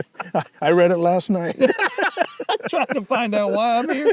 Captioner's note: laughing